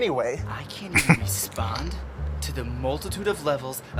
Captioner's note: chuckling